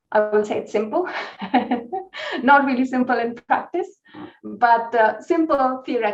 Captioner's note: laughs